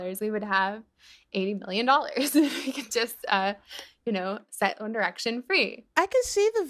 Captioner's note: laughter